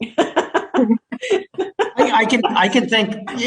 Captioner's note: laughs